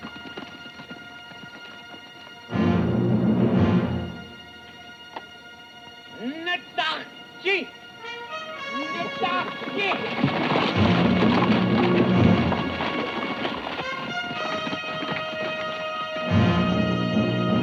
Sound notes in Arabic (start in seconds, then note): 6.4 ديلجاديتو يتحدث لغة أجنبية; 8.4 موسيقى درامية